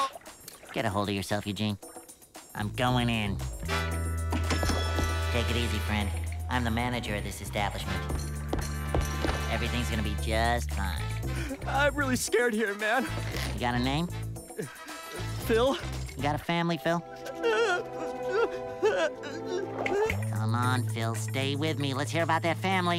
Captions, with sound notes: Get ahold of yourself, Eugene. I'm going in. Take it easy, friend. I'm the manager of this establishment. Everything's going to be just fine. I'm really scared here, man. - You got a name? - Phil. You got a family, Phil? [whimpering] [snapping] Come on, Phil, stay with me. Let's hear about that family.